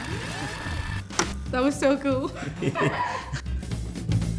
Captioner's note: laughing